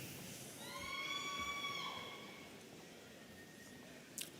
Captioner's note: audience cheering